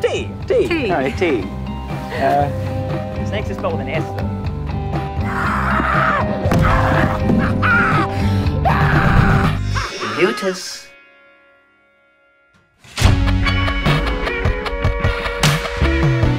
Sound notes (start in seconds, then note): 5.2 screaming; 13.0 gentle music